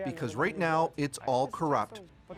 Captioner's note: speaking foreign language